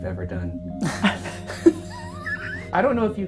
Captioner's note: laughs